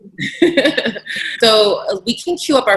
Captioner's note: laughing